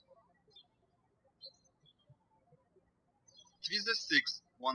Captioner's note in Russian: птички щебечут